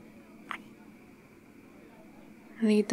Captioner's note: kiss